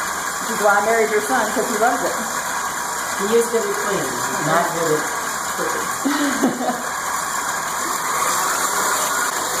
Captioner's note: laughter